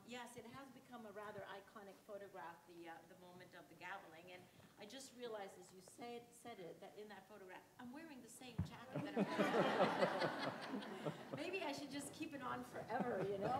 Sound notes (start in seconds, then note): 9.0 audience laughs